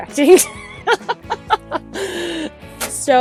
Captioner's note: laughter